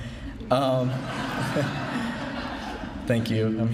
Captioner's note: laughing